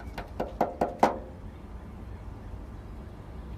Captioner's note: loud tapping